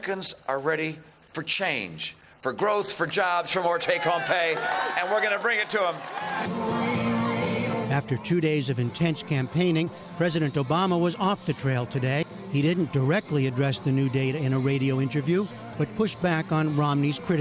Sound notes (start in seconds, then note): 6.5 cheering and applause